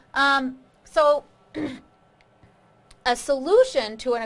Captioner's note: clears throat